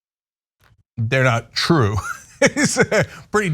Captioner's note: laugh